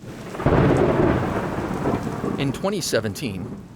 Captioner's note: thunder cracks